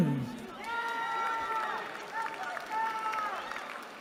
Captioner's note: cheering